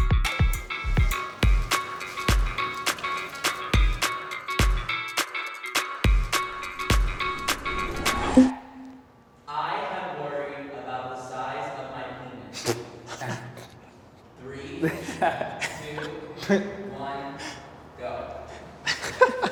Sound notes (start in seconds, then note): 0.0 upbeat music continues; 12.9 interviewees laugh; 18.8 interviewees snicker